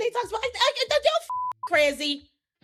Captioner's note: beeping